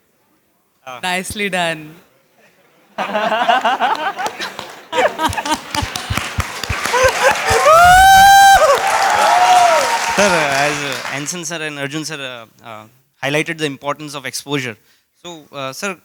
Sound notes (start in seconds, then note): 2.9 laughter; 5.7 applause; 8.2 cheers